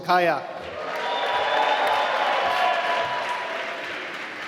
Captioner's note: applause